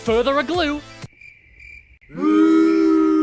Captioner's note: crickets; booing